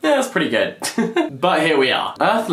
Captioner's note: laughs